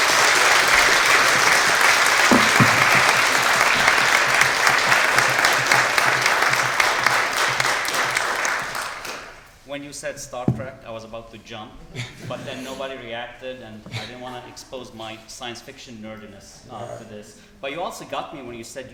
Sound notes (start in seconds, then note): 5.6 applause